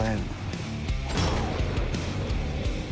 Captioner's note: gunshot